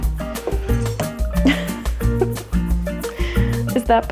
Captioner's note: chuckling